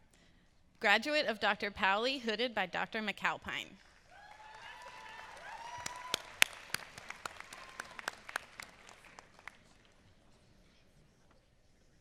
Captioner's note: applause